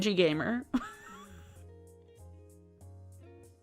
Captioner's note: laughing